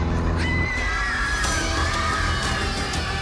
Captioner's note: children screaming